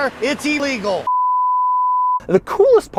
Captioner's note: bars and tone